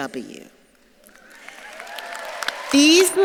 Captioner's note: audience claps and cheers